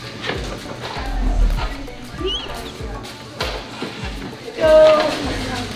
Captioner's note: team chattering